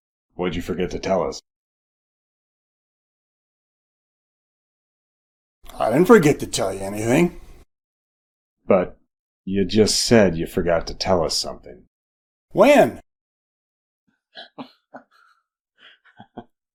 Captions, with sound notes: What'd you forget to tell us? [silence] I didn't forget to tell you anything. But you just said you forgot to tell us something. When? [chuckle]